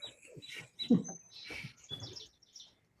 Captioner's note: chuckles